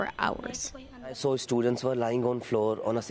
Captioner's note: through translator